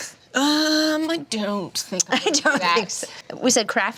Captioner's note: laughs